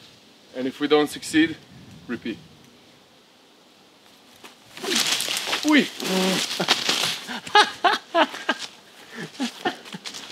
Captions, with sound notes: And if we don't succeed, repeat. *leaves rustling* Ooy! *laughter*